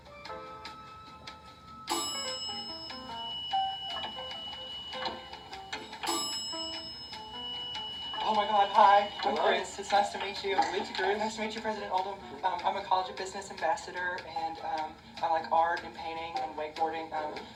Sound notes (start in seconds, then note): 0.0 elevator music; 1.9 elevator ding